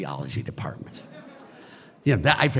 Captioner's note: audience laughter